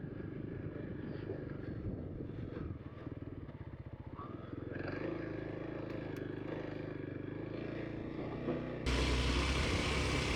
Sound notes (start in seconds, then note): 2.0 motor rumbling